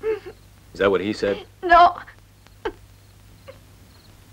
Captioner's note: crying